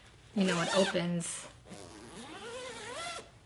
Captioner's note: zipper zips